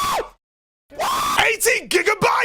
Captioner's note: screaming